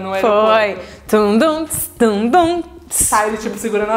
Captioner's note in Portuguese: cantarolando